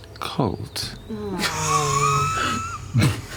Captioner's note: groaning; laughter